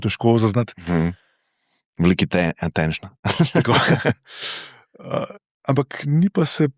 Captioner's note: laughter